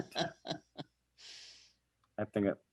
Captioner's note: laughing